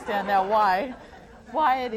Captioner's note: laughter